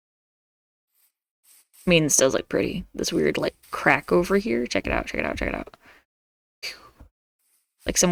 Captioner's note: swoosh sound